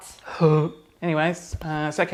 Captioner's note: gagging